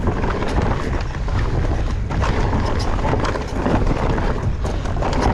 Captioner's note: wind blowing